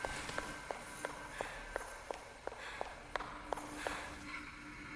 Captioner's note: Dorothy panting